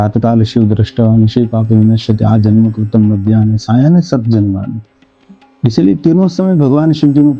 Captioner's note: reciting a Sholka